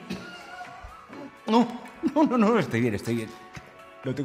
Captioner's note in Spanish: voz quebrada